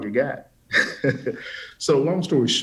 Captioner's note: chuckles